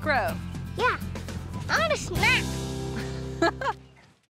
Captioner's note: giggles